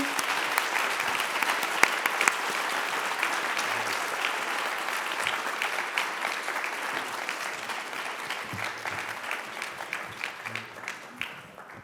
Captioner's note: applause